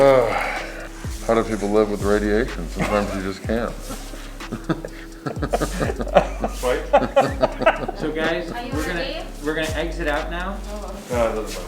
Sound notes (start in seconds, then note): 0.6 sighs; 4.7 both laughing